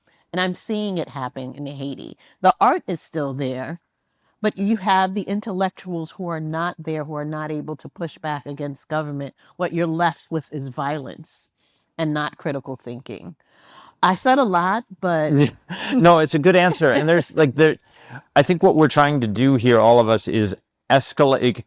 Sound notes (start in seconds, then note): 15.3 laughs; 16.9 laughing